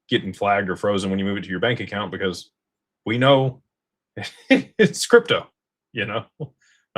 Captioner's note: laughter